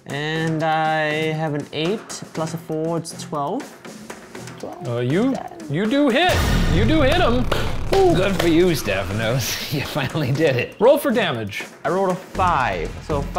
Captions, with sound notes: - And I have an eight plus a four, it's 12. - You do hit! (echoing clang) You do hit him. (clapping) - Good for you, Stephanos. (laughing) You finally did it. - Roll for damage. - I rolled a five, so five--